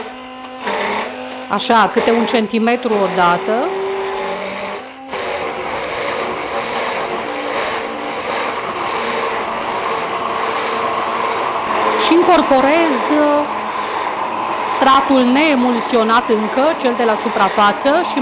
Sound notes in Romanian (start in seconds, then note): 3.8 sunetul blenderului